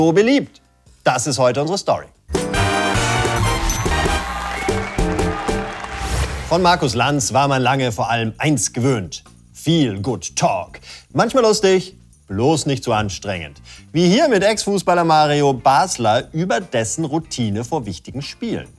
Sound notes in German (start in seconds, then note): 2.2 Beschwingte Musik; 3.1 Jubel, Pfiffe